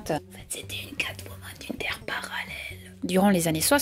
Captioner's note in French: Chuchotant